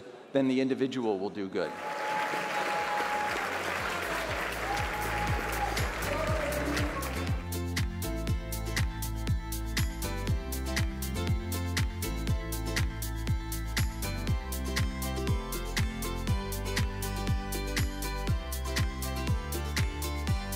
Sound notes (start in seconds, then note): 3.5 audience applauding; 5.5 upbeat music plays